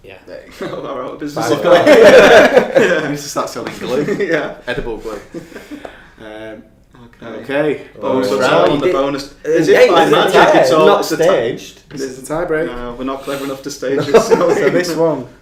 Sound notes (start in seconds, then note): 4.0 laughing